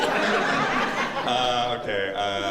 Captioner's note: laughter